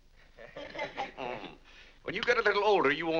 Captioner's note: family laughs